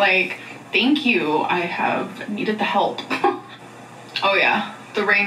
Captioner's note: laughs